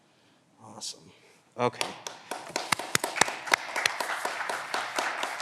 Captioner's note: all clapping